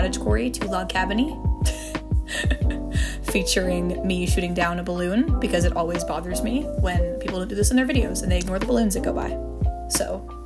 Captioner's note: laughter